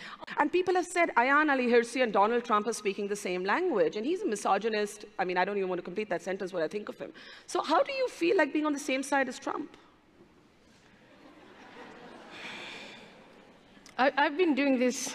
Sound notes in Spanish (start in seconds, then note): 11.0 se escuchan risas